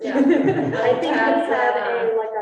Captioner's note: students laughing